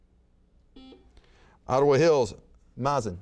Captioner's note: buzzer beeps